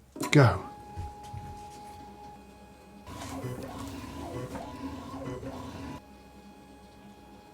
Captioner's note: coffee printer buzzing